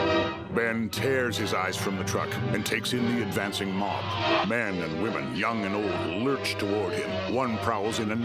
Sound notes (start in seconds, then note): 3.9 creatures wailing